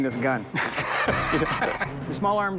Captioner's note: laughter